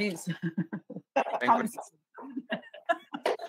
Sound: laughs

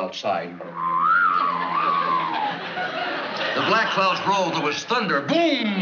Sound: whistling

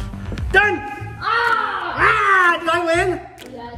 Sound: screams

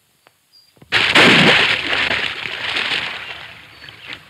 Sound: water whooshing

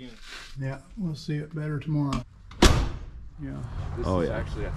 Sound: door closes

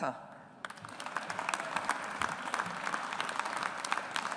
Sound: audience applauds

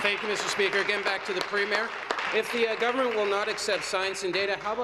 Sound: applause

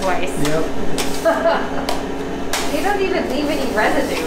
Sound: laughing

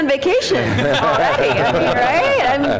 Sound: laughter

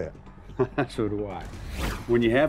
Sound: laughs

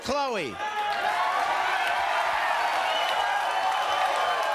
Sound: audience cheering

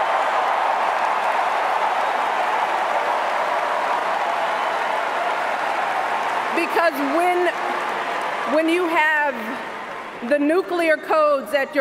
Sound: cheers, applause

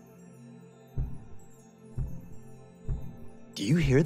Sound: light thudding

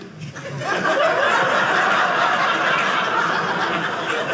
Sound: audience laughing

